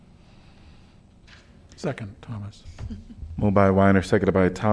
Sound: laughter

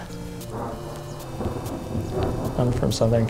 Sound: thunder

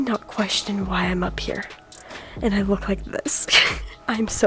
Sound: laughs

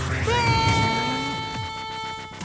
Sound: screams; glass shatters, car alarm blares

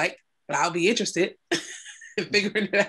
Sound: laugh

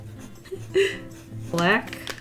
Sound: giggles

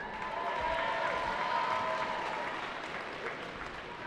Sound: cheering

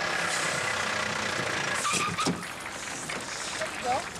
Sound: brake screeches; crowd applauds

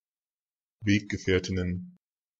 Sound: fast Pronunciation

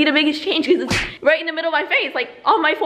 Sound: hand slapping

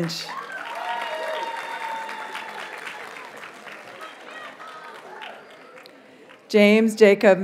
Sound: audience cheers and applauds

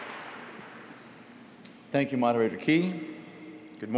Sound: applause

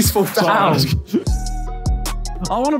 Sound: upbeat music begins; chuckles

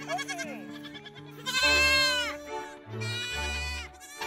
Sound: goats bleating

